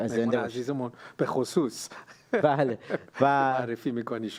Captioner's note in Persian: خنده